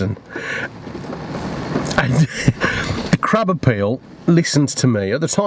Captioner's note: laughs